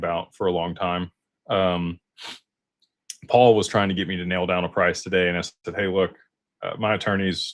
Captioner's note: snorts